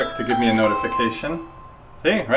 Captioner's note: digital chimes